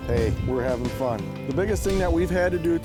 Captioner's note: voiceover